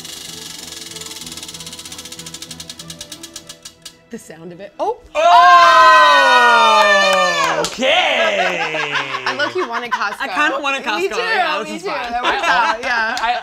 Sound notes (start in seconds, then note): 0.0 wheel clicking; 0.1 suspenseful music; 5.1 all cheering